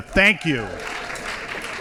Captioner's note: applause